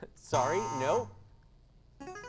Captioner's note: device sound; buzzing sound